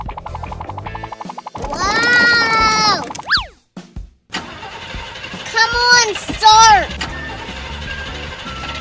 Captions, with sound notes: - Whoa! (engine struggling) Come on, start!